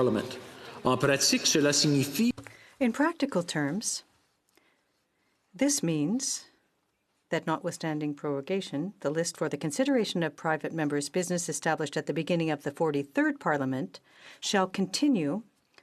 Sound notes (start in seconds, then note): 6.0 speaking French